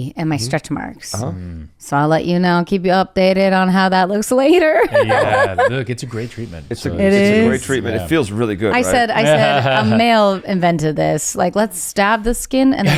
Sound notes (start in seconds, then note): 4.6 laughs; 8.8 laughs